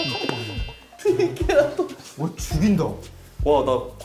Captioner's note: laughing